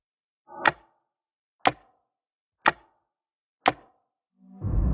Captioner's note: clock ticking